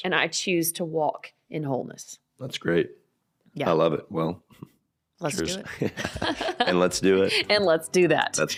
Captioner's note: both laughing